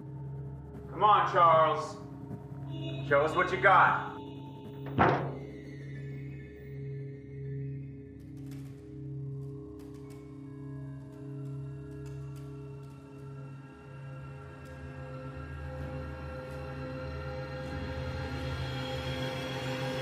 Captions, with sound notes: COME ON, CHARLES. SHOW US WHAT YOU GOT. [ THUD ]